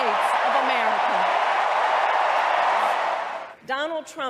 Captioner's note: crowd cheering